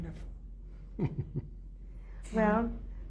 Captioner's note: laughs